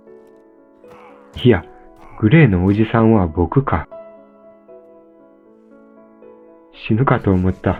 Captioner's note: laugh